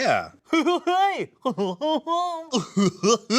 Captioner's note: laughs